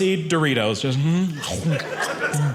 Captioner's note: audience laughing